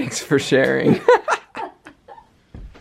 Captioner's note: laughter